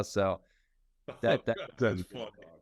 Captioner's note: laughing